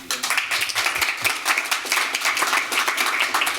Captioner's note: applause